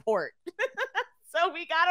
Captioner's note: laughing